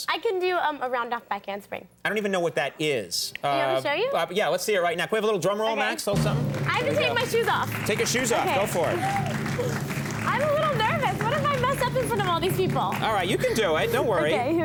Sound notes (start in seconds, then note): 9.4 audience clapping